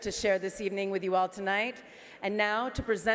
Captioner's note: speaking French